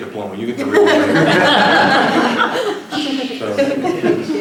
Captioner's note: laughter